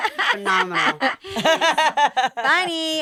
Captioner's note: all laughing